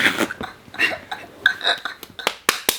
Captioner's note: laughing; clapping